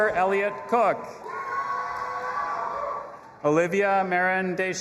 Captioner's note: audience applauding and cheering